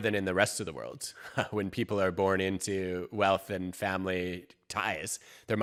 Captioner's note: chuckles